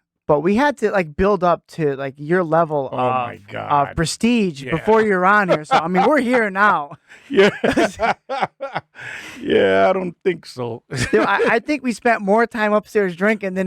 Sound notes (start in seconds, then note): 7.3 laughing